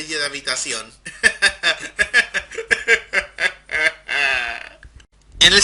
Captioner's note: laughter turns into crying